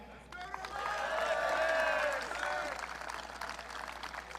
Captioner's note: audience cheering